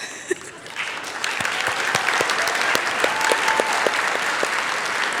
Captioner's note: applause